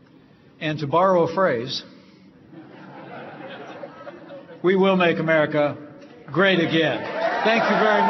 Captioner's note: laughter; applause